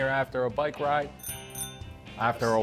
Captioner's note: bell ringing